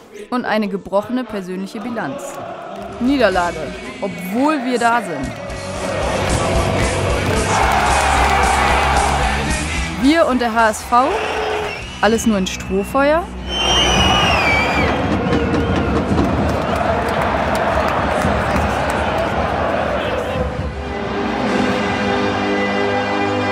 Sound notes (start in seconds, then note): 14.5 Pfiffe; 17.4 Stadionlärm